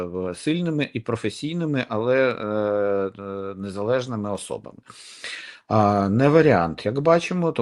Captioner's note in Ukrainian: сопіння